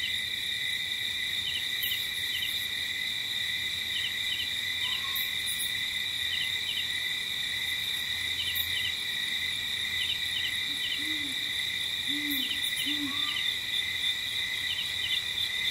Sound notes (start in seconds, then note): 5.5 light jungle ambience; 12.0 owl hooting